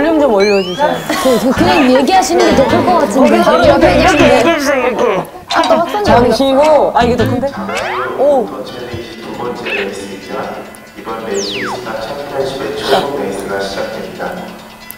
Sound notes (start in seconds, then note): 4.2 crack up